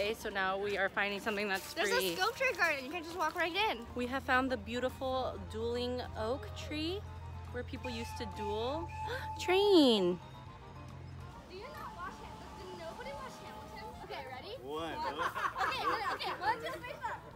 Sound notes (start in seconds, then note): 9.0 train whistle blows